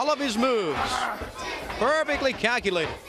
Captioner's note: crowd cheering